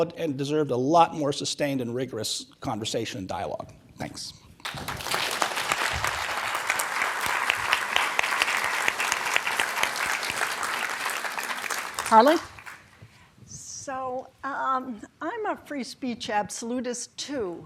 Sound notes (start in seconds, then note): 5.0 applause